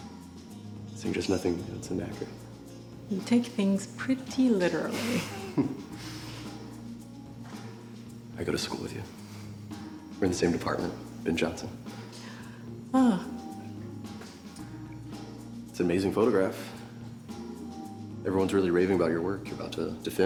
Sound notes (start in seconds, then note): 4.8 laughs